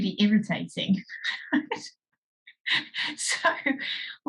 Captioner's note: laughs